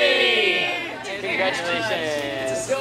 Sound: laughs

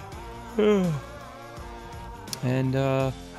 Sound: yawns

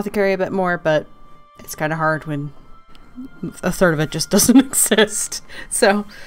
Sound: laughing

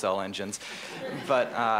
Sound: laughter

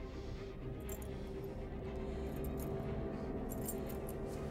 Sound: chain clinking

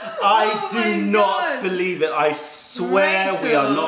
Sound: laughter

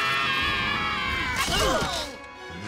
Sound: screaming; grunting; growling

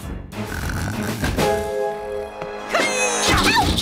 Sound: snoring

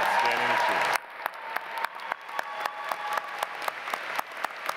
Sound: audience applauds

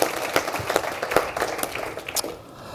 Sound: applause

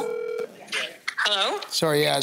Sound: phone ringing

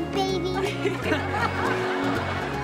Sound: laughing

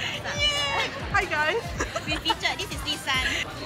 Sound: laughters

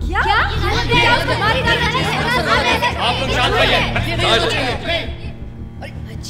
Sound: audience screaming

